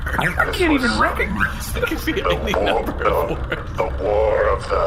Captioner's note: laughing; still laughing